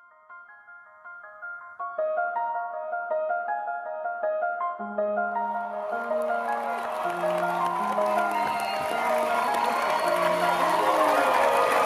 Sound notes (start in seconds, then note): 0.2 upbeat piano music; 7.1 audience applause